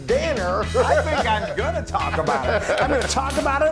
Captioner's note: laugh